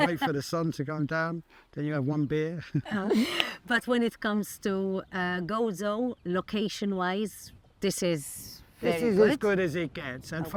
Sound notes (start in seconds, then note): 2.7 both chuckle